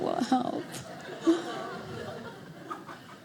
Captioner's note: audience laughing